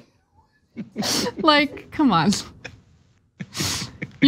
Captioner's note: laugh